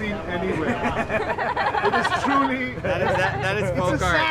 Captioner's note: laughter